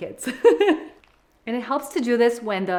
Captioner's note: laughs